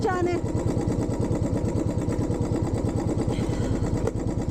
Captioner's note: bike engine